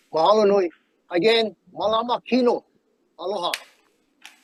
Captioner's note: speaking in foreign language